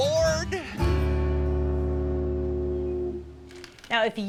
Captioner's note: ship horn blowing